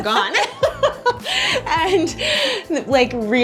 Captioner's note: both laughs